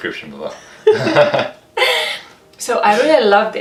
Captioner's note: laughing